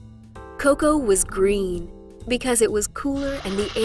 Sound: background slurping sound

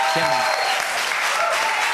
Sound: cheers and applause

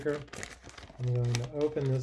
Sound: papers rustling

